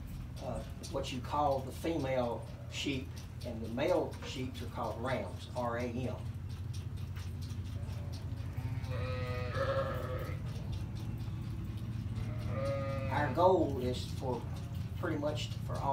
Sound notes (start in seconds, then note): 8.4 sheep bleating